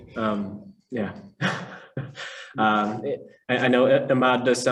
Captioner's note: chuckles